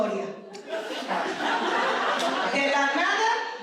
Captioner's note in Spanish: risas